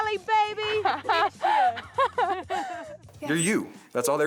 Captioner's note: both laughing